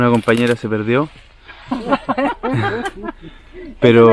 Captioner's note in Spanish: risas